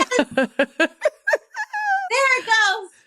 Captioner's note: chuckles